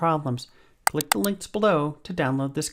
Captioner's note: mouse clicking